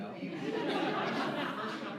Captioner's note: laughter